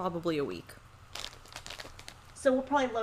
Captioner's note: paper rustling